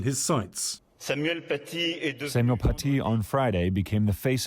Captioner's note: through translator